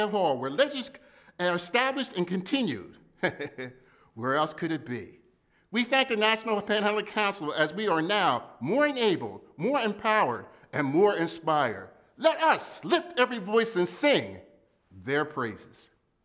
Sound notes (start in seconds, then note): 3.2 laughs